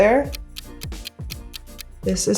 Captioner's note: ticking